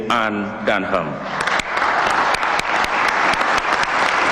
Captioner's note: applause